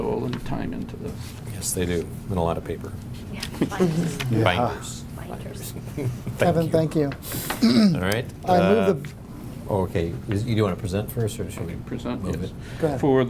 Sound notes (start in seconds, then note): 6.0 laughs